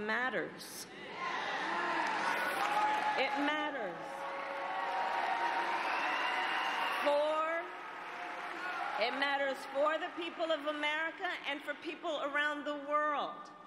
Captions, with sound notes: So all of this is to say, who sits in the white house matters. [Applause] It matters.